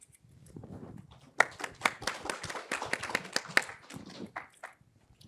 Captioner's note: applause